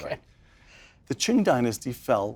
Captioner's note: laugh